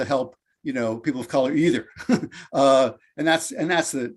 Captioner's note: chuckles